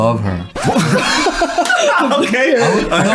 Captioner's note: everyone laughing